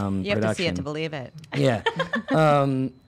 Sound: laughs

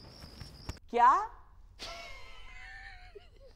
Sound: giggling

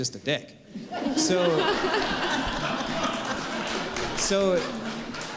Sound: laughter and applause

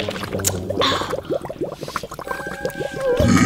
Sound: breathing heavily; belches loudly

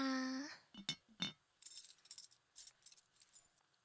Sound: 수저, 그릇 부딪히는 소리

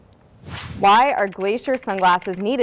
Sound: air whooshing; keyboard clicking

